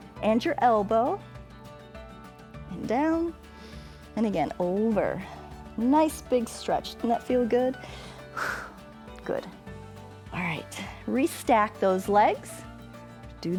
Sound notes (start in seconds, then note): 7.8 exhales